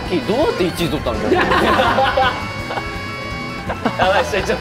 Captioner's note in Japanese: 笑い